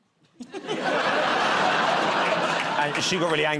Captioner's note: laughter